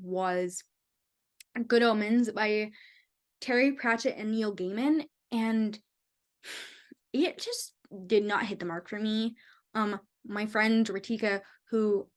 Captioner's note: sigh